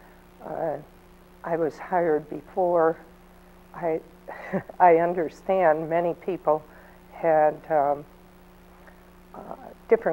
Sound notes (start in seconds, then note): 4.3 chuckles